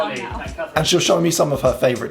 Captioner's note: voices chattering